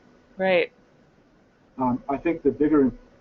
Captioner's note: voiceover